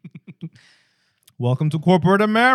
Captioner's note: laughing